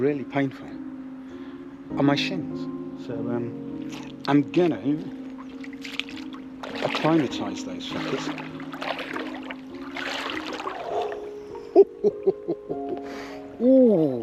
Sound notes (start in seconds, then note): 8.3 water splashing; 11.5 chuckling